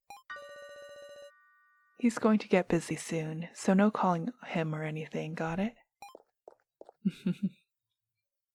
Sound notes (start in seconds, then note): 6.0 footsteps; 7.0 laughs